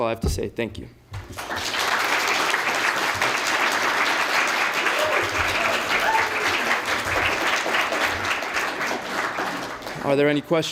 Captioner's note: applause